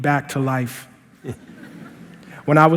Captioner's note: laughter